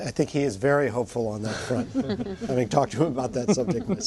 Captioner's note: laughter